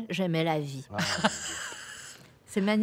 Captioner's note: laughter